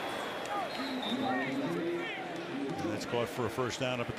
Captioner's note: whistle